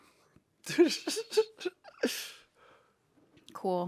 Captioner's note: Anthony laughs